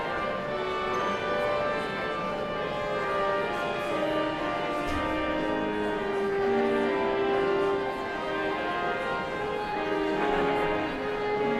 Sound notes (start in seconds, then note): 0.1 somber organ music continues; 4.9 audience chattering continues